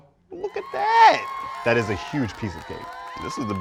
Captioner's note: cheering